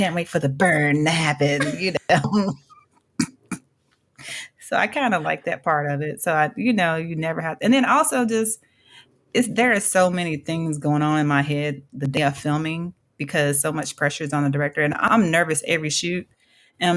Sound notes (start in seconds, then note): 1.6 chuckle